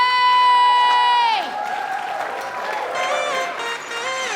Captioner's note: audience applauds and cheers; funky music